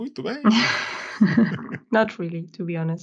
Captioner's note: both laugh